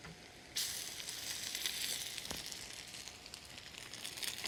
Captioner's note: sizzling